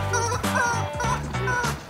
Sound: toy squeaking

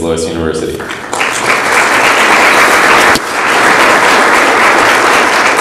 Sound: audience applauds

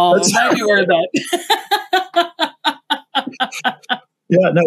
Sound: both laugh

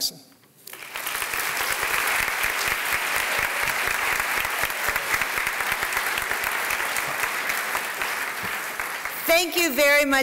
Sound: applause

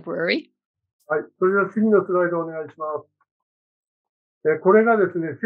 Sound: speaking japanese

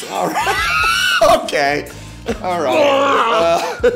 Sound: laughs; Blake laughing; imitates retching

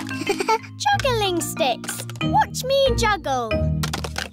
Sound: chuckles

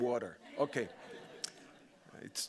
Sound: audience laughing

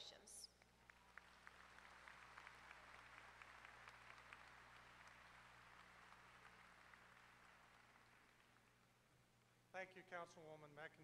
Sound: applause

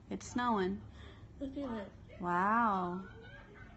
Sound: gasp

